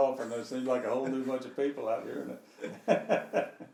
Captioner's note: laughing